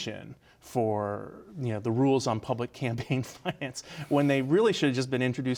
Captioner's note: laughs